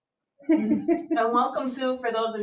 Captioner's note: people chuckle